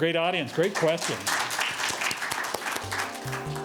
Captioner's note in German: audience clapping; soft music